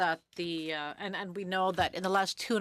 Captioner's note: speaking French